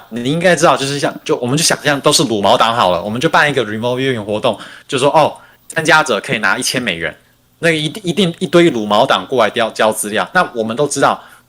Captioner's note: non-english speech